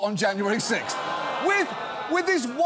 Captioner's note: audience groans